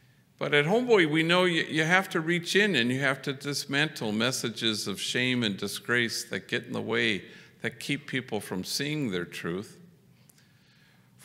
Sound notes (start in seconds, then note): none